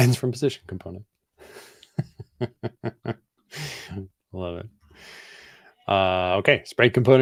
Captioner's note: chuckles